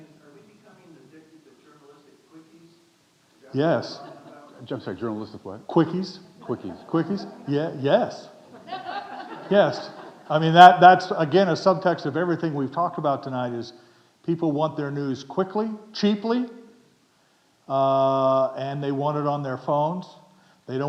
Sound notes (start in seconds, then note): 8.3 audience laughing